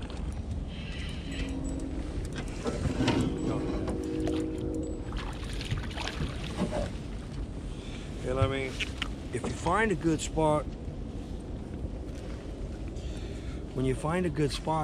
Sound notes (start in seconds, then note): 3.0 reel cranking; 5.1 fish splashing